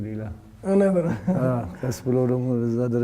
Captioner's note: laughter